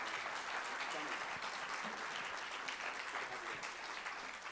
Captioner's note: applause continues